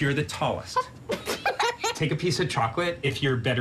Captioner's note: laugh